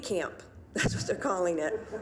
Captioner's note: laughing; audience laughing